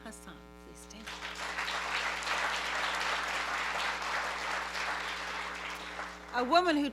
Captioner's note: applause